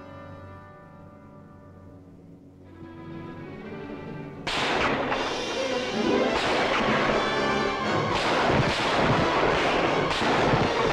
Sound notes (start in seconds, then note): 4.5 gunfire